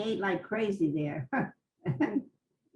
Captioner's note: laughs